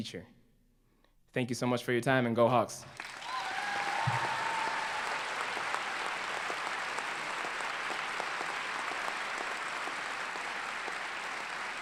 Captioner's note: applause